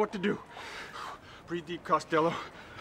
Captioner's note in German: atmet scharf ein